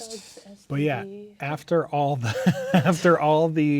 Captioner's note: laughing